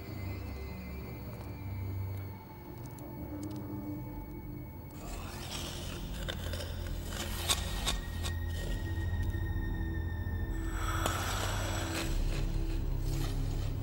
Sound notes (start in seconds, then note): 0.2 soft tense music; 5.0 knife scraping; 8.2 soft tense music